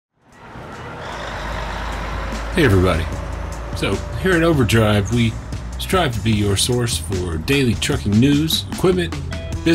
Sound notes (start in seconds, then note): 0.0 engine humming